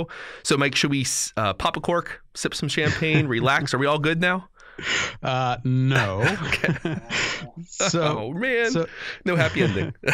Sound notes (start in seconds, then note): 6.0 chuckle